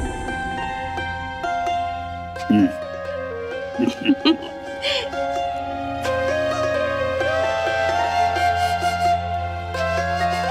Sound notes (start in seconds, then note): 3.8 laughter; 4.9 calm music